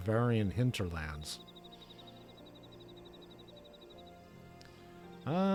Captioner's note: birds chirping